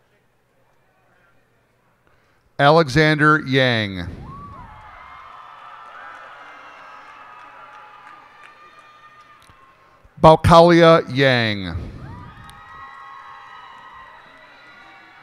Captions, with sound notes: Alexander Yang. [cheers and applause] Baokalia Yang. [cheers and applause]